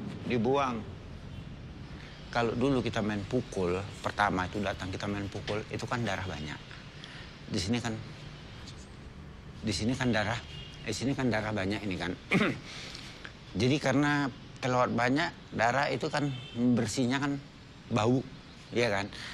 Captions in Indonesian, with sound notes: Dibuang. Kalo dulu kita main pukul, pertama, tuh, datang, kita main pukul, itu 'kan darah banyak. Di sini 'kan, di sini 'kan darah di sini 'kan darah banyak ini 'kan. [Uhuk] Jadi karena terlewat banyak, darah itu 'kan membersihkannya 'kan bau. Iya 'kan?